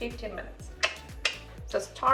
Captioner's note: tongue clicking